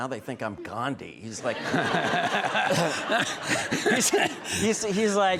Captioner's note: all laughing